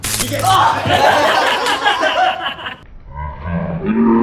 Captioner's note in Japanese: 電流の効果音; 爆笑